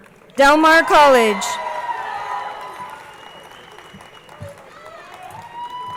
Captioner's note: crowd cheering and applauding